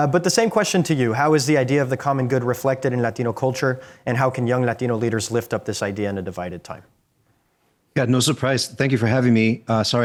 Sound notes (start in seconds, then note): none